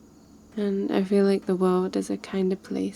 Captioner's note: none